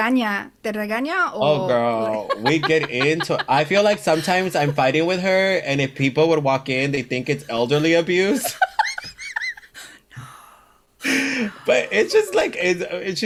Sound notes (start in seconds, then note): 7.7 both laugh